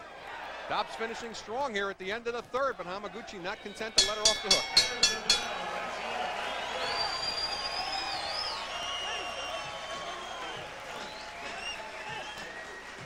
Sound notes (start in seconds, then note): 4.0 bell rings six times to end Round 3; 5.4 loud whistling, cheering from audience